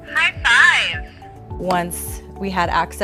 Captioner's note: AAC Voice